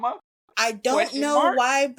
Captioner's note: laughs